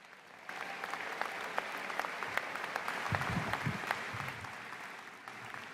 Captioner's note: applause